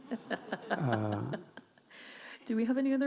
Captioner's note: laughing